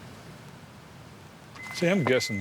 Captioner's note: trunk beeping